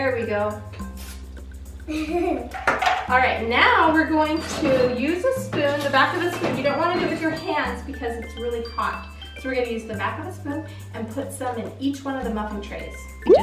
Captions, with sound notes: There we go. (laughing) All right now we're going to use a spoon, the back of the spoon, you don't want to do it with your hands because it's really hot so we're gonna use the back of the spoon and put some in each one of the muffin trays.